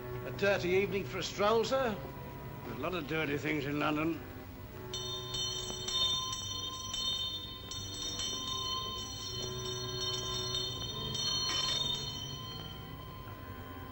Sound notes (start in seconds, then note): 4.8 ominous music; 4.8 bell rings; 12.3 ominous music